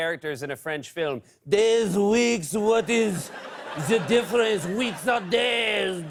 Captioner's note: French accent